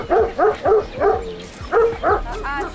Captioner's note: rumbles; continues barking